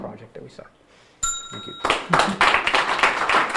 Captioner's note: bell dinging; audience applauding